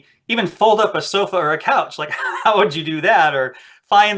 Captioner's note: laughs